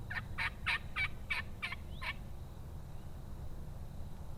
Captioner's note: turkey hooting